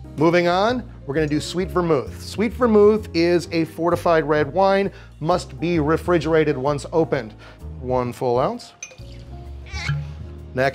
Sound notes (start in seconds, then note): 8.8 vermouth splashing; 8.8 cork popping; 8.9 cheerful music